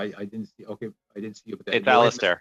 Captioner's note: speaking FRENCH